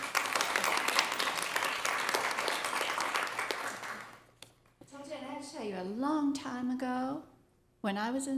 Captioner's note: applause